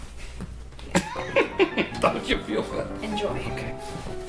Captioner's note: laughs